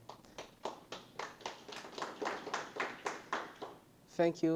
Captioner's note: participants applauding